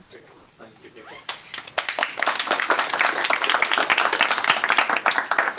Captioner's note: applause